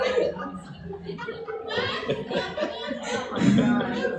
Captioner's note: audience chattering